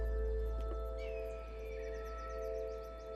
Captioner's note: birds squawking